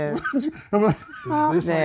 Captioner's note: laughter